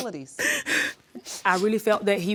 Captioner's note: sobbing